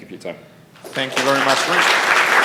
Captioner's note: applause